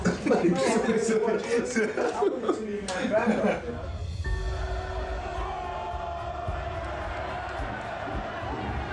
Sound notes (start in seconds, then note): 0.6 Manny laughing; 3.5 crowd cheering